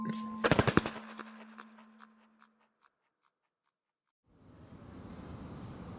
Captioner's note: wing flaps SFX